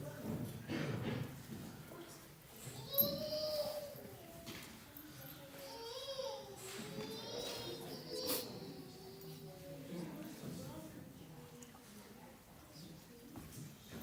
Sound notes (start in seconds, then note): none